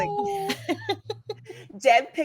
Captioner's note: cast laughing